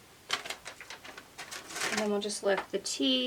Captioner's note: paper rustles